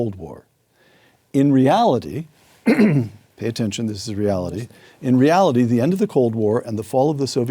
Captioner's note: cough